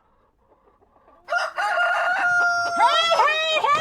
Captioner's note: rooster crowing